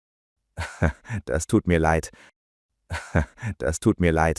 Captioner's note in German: lacht laut; lacht laut